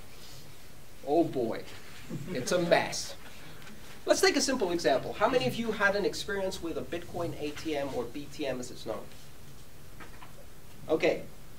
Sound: laughter

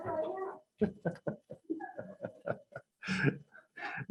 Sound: laughs

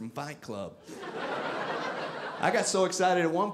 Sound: audience laughing

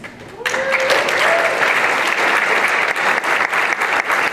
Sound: applause

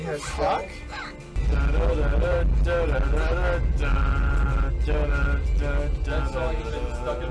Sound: theme

